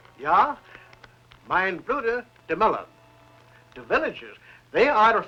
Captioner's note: non-english